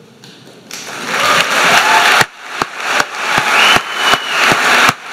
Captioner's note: crowd cheering